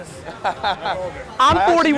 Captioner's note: group laughter